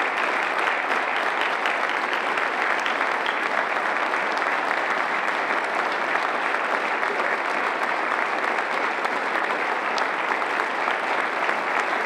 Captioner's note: applause